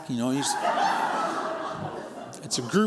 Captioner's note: laughter